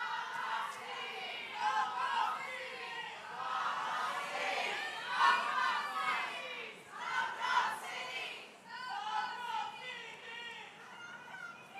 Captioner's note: chanting